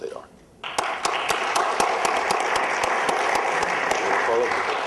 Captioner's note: applause